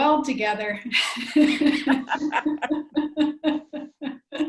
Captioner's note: laughs